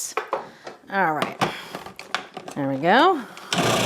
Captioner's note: plastic clinking